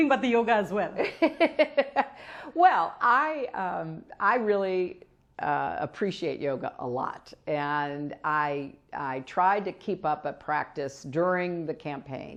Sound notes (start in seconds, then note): 3.6 laughs